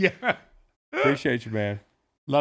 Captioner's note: laughs